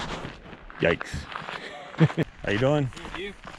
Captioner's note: laughs